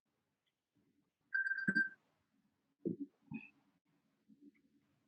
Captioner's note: phone buzzes